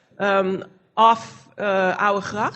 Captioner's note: foreign language